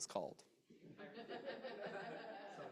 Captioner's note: chuckles